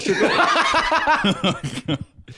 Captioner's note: laughing